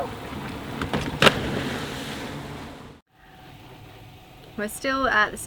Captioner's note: water splashing